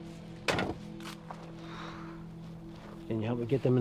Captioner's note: exhales